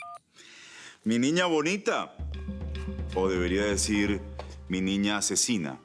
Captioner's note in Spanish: Suena el celular